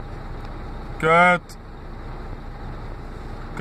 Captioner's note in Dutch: Dutch swearing